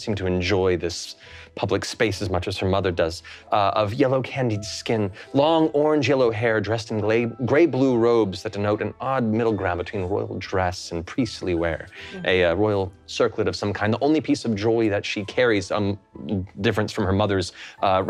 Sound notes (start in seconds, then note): none